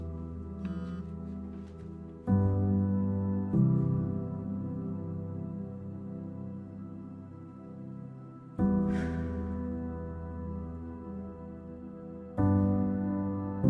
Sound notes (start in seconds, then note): 9.0 sighs